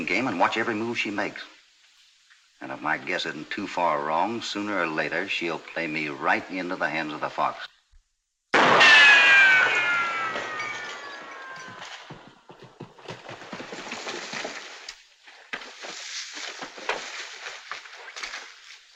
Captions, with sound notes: and watch every move she makes. And if my guess isn't too far wrong, sooner or later she'll play me right into the hands of The Fox. [ GUNSHOT - GLASS SHATTERING ]